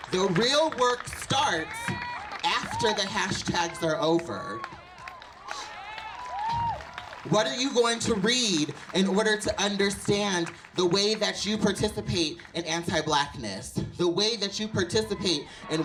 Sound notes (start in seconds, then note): 5.3 audience claps and cheers